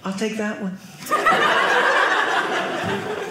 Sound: audience laughing

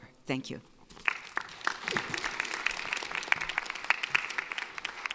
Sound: audience applauding

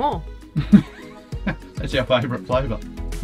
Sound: laughs

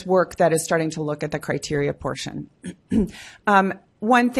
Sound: clears throat

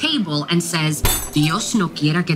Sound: slam

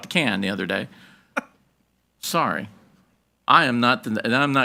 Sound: board Member chuckling

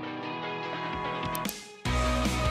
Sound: gentle music; click; bright music

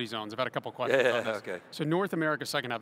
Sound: laughs

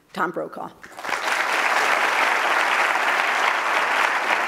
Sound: crowd applauding

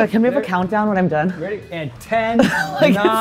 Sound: laughs

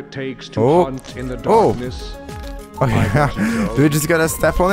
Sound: laughs

